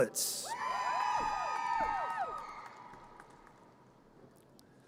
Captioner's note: audience cheers